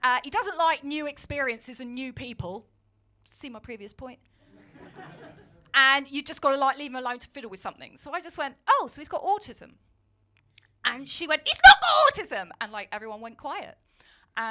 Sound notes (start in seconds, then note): 4.5 audience laughing; 11.5 shrieks